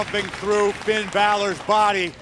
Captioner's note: crowd cheering